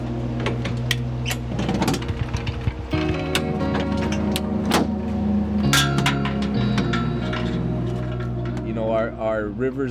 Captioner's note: crank rumbling and clanking